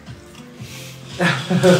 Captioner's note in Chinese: 嘆氣